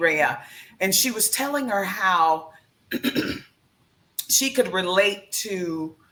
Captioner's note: clears throat